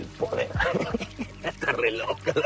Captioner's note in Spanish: Risas